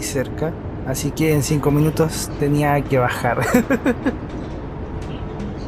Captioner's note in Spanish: risas